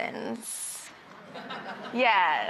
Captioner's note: audience laughs